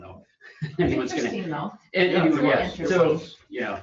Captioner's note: overlapping chatter